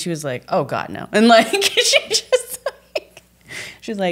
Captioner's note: laughs